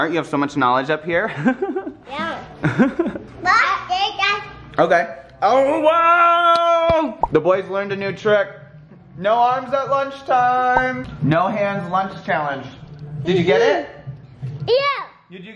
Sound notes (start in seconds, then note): 2.6 chuckles